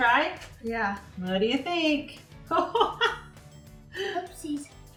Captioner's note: laughs